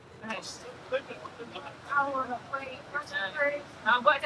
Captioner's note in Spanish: charla confusa